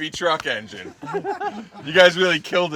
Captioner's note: everyone laughing